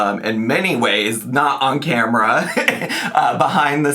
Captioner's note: laughs